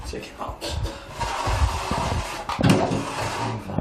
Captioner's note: metal sliding on floor